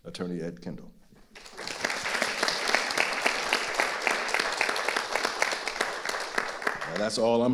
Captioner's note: audience applauding